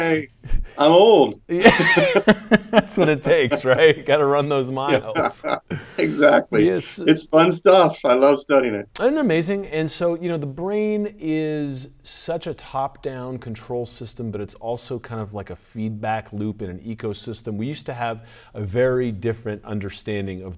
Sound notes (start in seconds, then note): 1.6 laughing